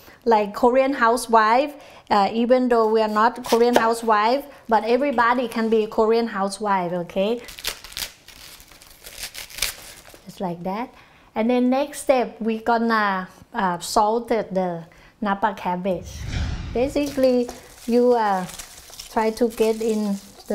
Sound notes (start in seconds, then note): 7.5 cabbage cracking